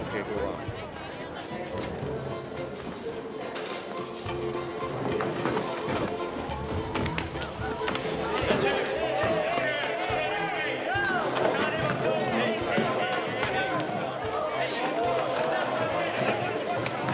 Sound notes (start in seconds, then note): 2.1 people chatter indistinctly; 5.8 men scuffle